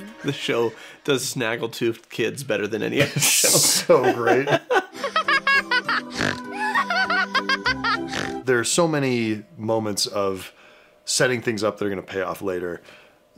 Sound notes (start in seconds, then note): 5.0 gigglesnorts